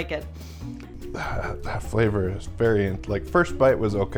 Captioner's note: clears throat